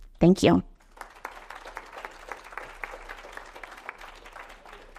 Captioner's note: audience applauds